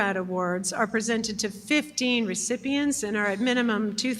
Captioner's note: none